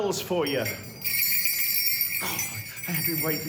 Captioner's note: bells jingle